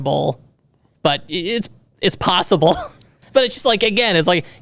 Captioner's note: chuckles